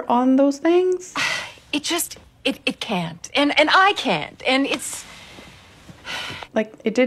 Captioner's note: sighs